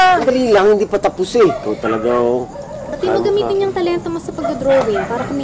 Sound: none

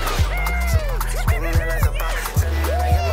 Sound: cheering

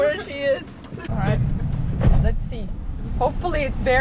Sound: laughing

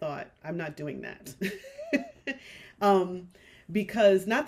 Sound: chuckles

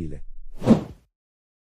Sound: FX - Whoosh - 03

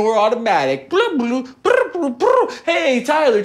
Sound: mimics computer chirping

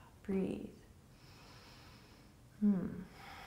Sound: inhaling

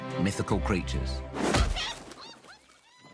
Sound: bird squawks

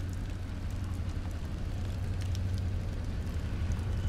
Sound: engine whirs

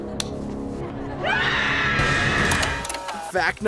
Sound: screaming

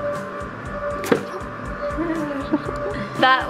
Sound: egg plops; laughing

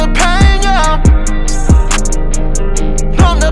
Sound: echo

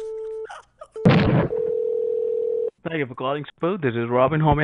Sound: laughing; phone ringing

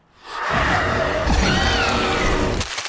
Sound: screeching

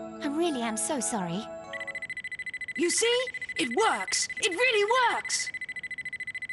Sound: lie detector rings

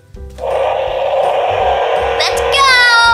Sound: toy car engine roaring

